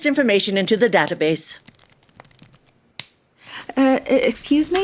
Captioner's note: typing sounds